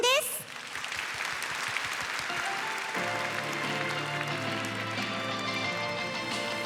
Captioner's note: applause